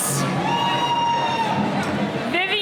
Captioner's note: cheering